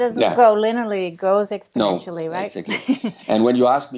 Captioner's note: chuckles